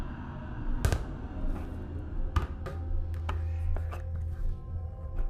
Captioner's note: light sphere thudding